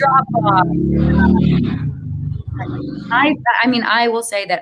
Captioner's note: car revving